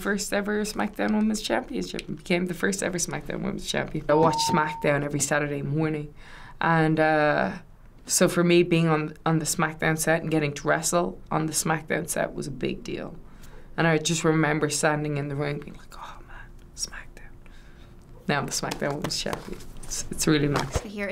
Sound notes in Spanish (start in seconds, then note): 15.6 susurros